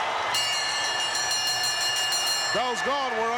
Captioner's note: bell chimes